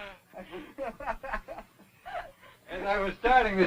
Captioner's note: Gil laughing